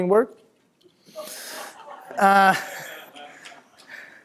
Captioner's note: laughter